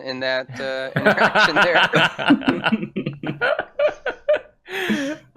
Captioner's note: laughter